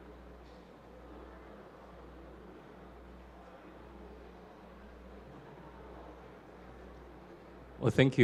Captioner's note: silence